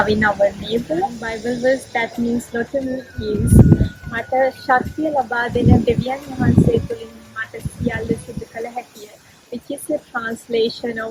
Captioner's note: speaks Sri Lankan